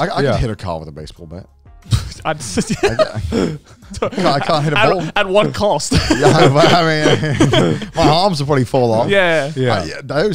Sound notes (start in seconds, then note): 1.9 laughing